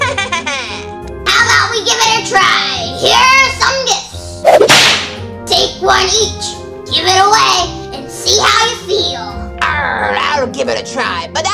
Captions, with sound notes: (sinister laugh) - How 'bout we give it a try? Here's some gifts. (whip cracks) Take one each, give it away, and see ya feel. - Argh I'll give it a try